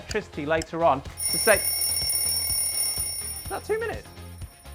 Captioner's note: alarm chimes